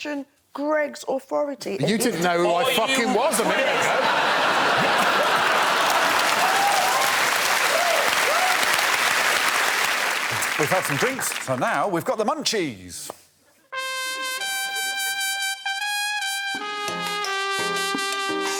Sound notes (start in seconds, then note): 7.0 applause; 13.7 quirky music playing